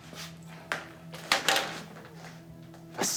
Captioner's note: hit sound